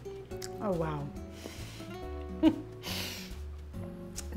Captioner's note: chuckles